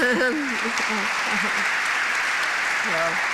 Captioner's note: applause